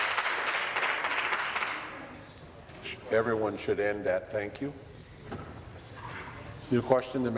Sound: voice trailing; applause

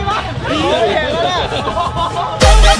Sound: chuckles

